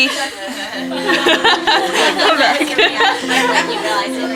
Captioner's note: women laughing